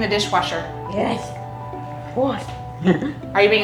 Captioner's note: laughs